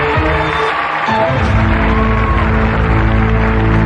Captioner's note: cheering and applause